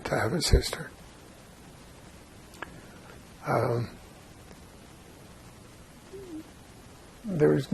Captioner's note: pauses 6 seconds